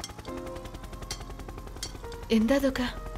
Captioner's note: Fans whirring